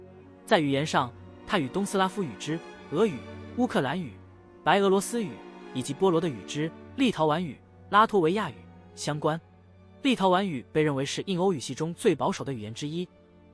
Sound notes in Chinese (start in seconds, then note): 3.0 俄语、乌克兰语、白俄罗斯语